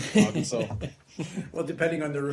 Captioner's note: laughter